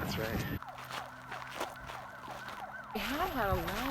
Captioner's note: sirens wail